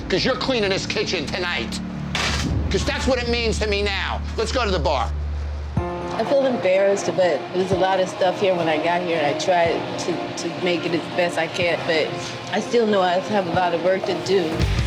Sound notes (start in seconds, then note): 2.1 plaque clatters